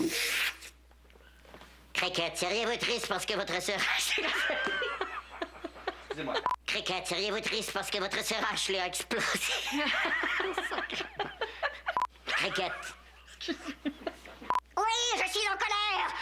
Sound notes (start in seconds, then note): 2.0 petite voix; 3.9 fou rire; 9.2 rires